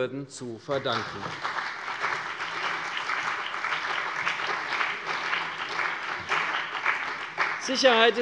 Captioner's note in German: Beifall CDU und BÜNDNIS 90/DIE GRÜNEN